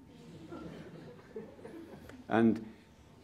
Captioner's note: laughter